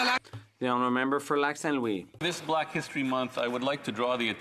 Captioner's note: some Applause